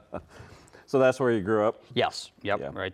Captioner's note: laughs